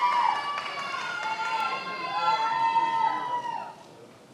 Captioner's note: many applauding